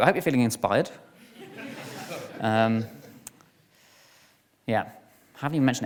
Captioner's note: audience laughs